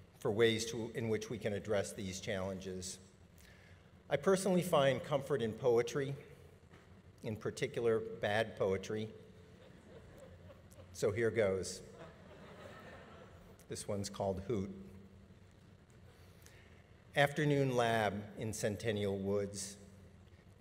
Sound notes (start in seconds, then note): 9.5 audience laughing